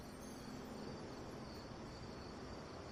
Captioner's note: crickets